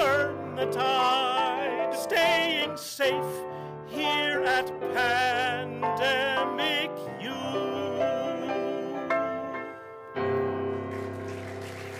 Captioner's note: applause